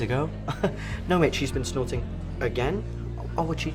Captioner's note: chuckles